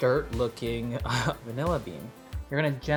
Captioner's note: lightly chuckles